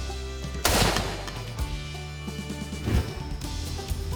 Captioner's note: gunshot